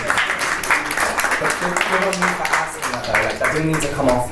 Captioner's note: panellists and audience applaud